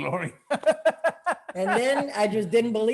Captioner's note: laughing